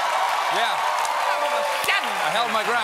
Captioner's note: cheers and applause